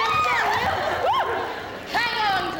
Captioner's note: women cheer